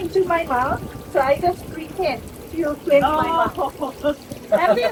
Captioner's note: laughter